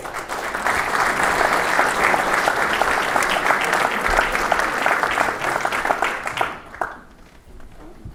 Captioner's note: applause